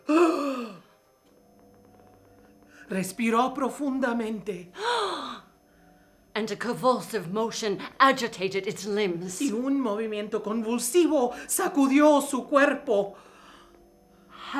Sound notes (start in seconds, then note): 0.0 gasps; 3.0 speaking in foreign language; 4.8 gasps; 9.7 speaking in foreign language